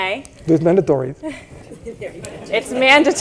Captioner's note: laughter